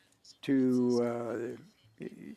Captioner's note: speaking French